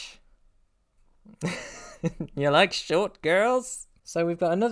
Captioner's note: laugh